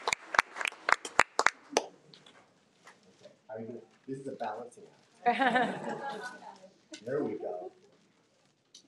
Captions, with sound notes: - This is a balancing act. (audience laughing) There we go.